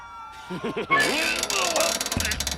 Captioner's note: chuckles; strained grunts